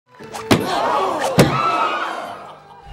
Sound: all gasping

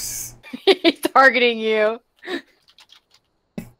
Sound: laughing

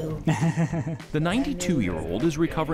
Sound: both chatter

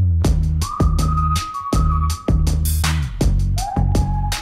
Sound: upbeat music; whistling

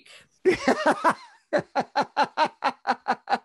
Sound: laughs

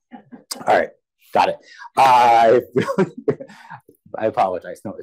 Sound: laughs

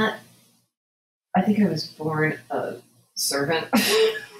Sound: laughs

